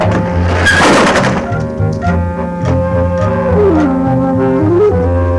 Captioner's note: wheel clatters; tense, mysterious music